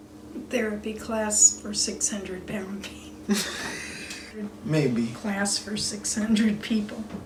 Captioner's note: laughs